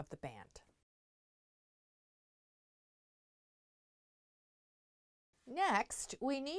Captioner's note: no Sound Present